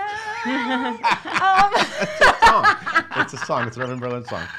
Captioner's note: laughs